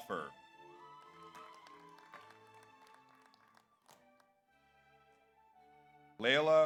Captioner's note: audience applauds; audience cheers